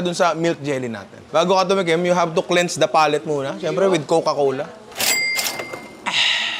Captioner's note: cash register sound